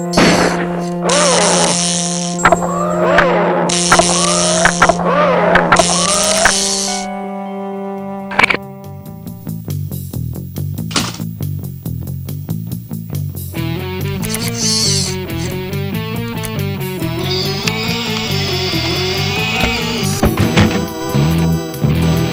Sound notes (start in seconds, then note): 0.1 gun fires; 0.1 animatronic skips audibly; 8.1 gun clicks; 10.7 gun clatters; 10.7 tense music; 17.0 wheelchair whirring; 20.0 thumping